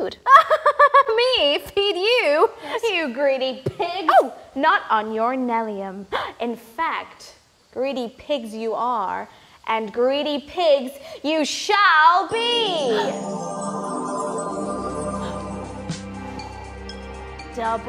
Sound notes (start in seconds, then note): 0.8 laughs; 12.8 magic sound; 12.9 song music begins